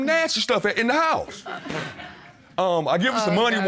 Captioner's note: blows raspberry